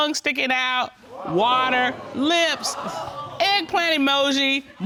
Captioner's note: audience exclaiming